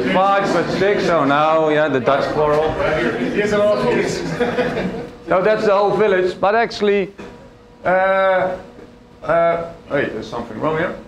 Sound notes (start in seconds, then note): 4.0 laughter